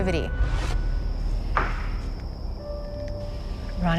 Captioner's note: knock on wood